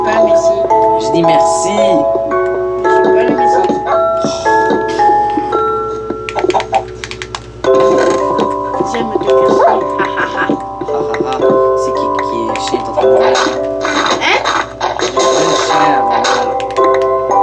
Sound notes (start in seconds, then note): 4.8 sighs and laughter; 5.3 music and game sound